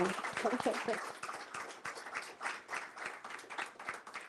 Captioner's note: applause